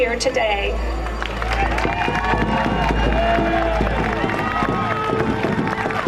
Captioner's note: crowd cheering and applauding